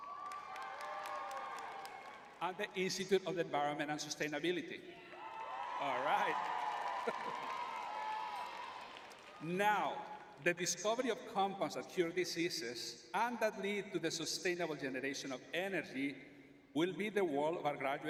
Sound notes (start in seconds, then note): 1.6 cheering; 4.9 cheering; 7.4 laughs